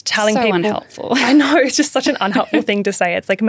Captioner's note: chuckles